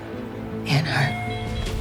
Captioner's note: voiceover